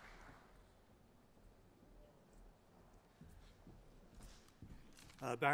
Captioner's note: applause